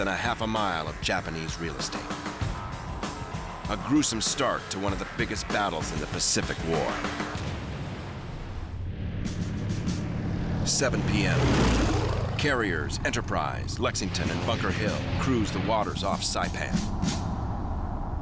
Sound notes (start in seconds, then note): 7.5 engines roaring